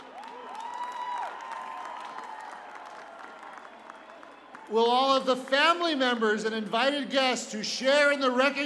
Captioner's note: cheers and applause